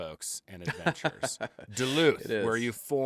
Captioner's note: laughs